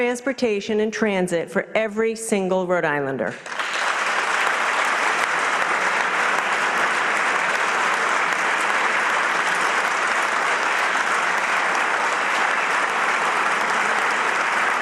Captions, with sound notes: INVEST IN ROADS AND BRIDGES. LET'S TAKE THAT SAME PROVEN APPROACH TO IMPROVE OUR PUBLIC TRANSPORTATION AND TRANSIT FOR EVERY SINGLE RHODE ISLANDER. [APPLAUSE]